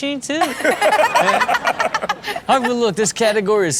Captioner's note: Sterling and Chanel laughing